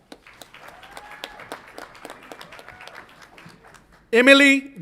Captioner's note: audience applauds and cheers